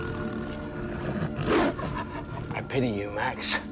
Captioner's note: dog barking